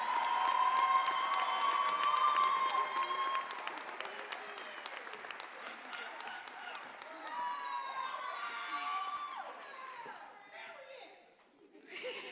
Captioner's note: applause